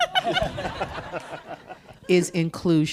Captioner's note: audience and panelists laughing